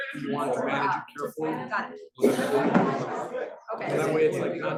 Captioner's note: students chattering